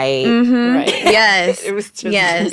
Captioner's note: laughing